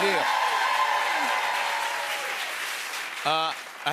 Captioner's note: cheers and applause